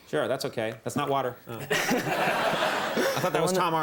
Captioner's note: crowd laughs